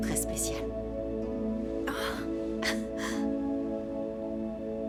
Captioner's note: chuckling